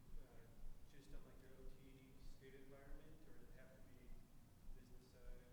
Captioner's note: faintly speaking